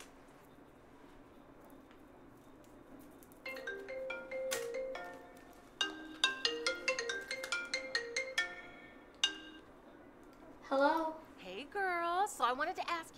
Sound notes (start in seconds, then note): 2.9 phone ringing